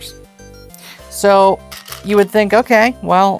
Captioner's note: stones rattling